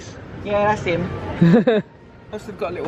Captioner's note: laughs